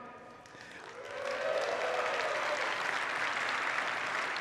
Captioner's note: audience applauds